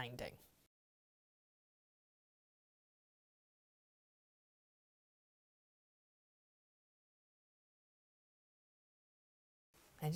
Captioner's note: no Sound Present